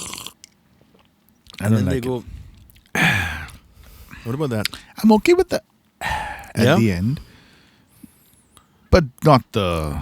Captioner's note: sigh